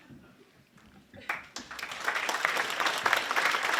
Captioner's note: applause